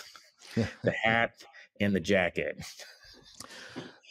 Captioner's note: chuckles; laughs